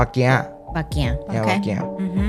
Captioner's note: Taiwanese